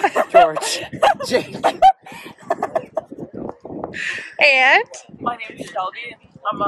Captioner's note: laughter